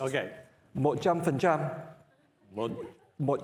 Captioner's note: speaking namese; speaking Vietnamese